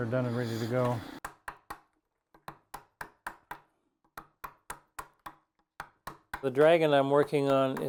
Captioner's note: chisel tapping